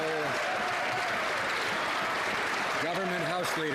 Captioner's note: some Applause